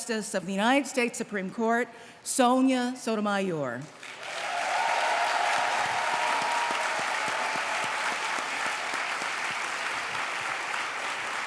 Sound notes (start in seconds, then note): 3.9 applause